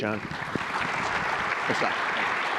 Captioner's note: applause